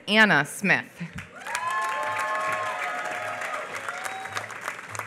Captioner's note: applause